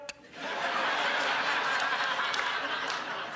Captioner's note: crowd laughs